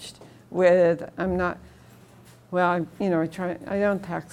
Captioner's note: stutters